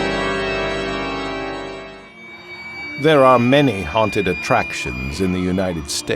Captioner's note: spooky music; screaming